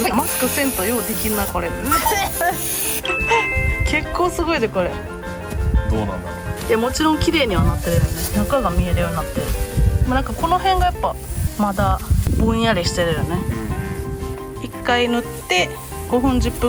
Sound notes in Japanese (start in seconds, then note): 1.9 咳き込む